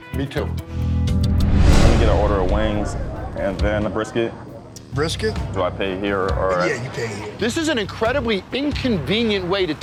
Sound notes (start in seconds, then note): 1.0 scene whooshing